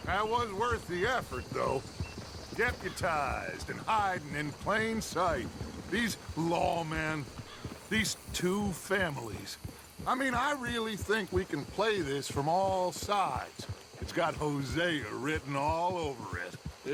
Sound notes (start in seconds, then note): none